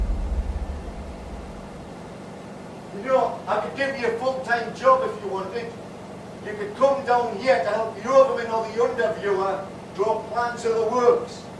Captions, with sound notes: (shouting) You know I could give you a full time job if you wanted? You could come down here to help the Under Viewer draw plans of the works.